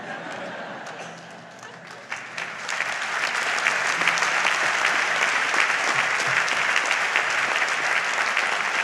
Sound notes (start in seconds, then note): 1.5 audience applauds